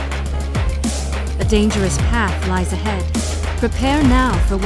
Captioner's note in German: Voiceover